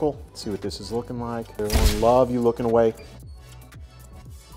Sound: camera shuttering

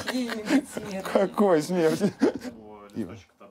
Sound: all laugh; laughing

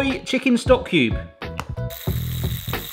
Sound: stock cube plops; whisk whirring

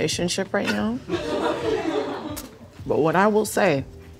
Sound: laughing

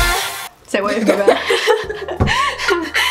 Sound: laughs

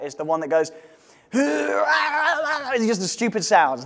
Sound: murloc sounds

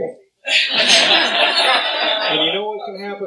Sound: laughter

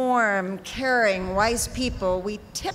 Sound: none

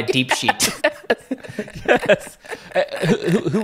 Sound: laughing

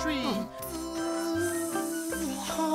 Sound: Benbo and Babbo buzz

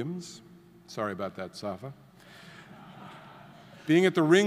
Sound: audience laughing

